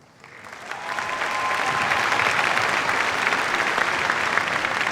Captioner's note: cheers, applause